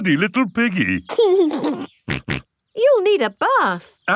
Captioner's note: giggles and snorts